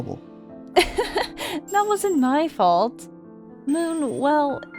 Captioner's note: laughs